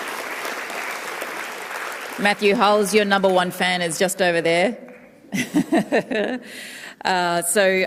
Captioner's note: cheering and applause